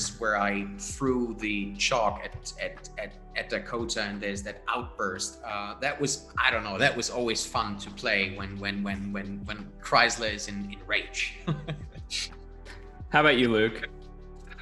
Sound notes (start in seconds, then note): 11.3 laughs